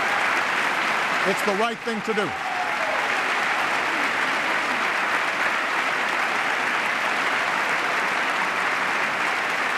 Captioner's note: applause